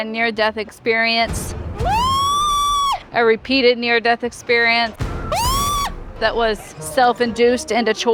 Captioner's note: screaming